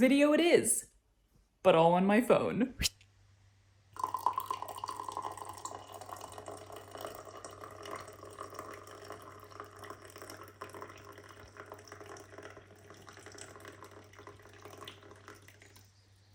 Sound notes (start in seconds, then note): 4.0 liquid noises